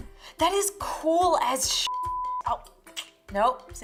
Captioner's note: beeping